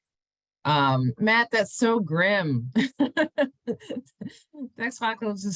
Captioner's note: laughs